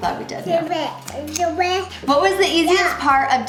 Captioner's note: cute babbling